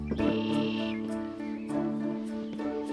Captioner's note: birds chirping